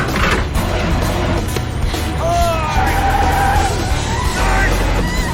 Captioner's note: tires screeching